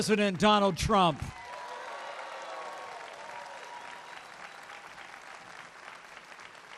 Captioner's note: applause